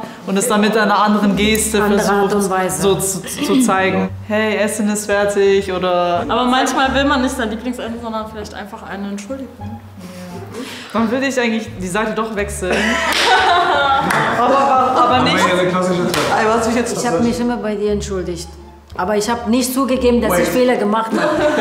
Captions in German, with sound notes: und es mit einer anderen Geste versucht, zu zeigen. Hey, Essen ist fertig. Aber manchmal will man nicht sein Lieblingsessen, sondern vielleicht einfach eine Entschuldigung. Dann würde ich die Seite doch wechseln. (Stimmengewirr) Ich habe mich immer bei dir entschuldigt. Aber ich habe nicht zugegeben, dass ich Fehler gemacht habe.